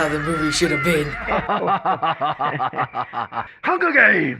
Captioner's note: cracking up; President Snow chuckles; Caesar laughs heartily